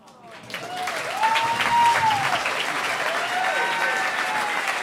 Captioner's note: audience cheering